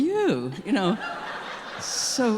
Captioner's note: audience laughing